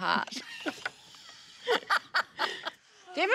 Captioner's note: laugh